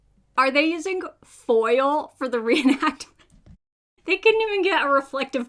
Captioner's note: laughs